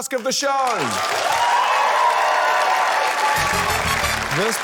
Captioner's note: cheering, applause